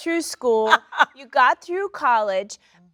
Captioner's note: Sheryl Lee laughs